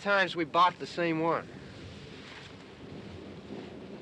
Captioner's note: thunder rumbling